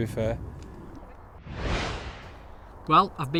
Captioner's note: whooshing